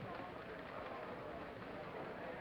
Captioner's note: none